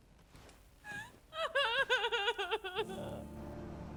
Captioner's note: crying; soft dramatic music